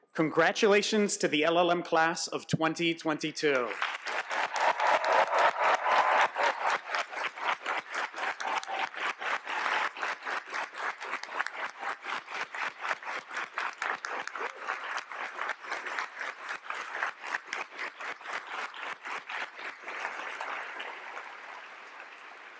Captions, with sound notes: Congratulations to the LLM class of 2022. [APPLAUSE]